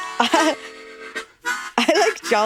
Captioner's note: chuckles